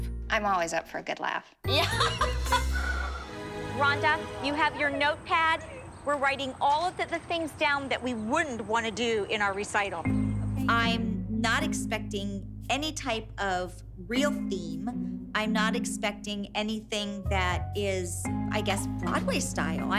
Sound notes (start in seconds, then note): 1.7 chuckling